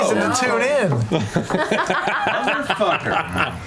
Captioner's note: laughter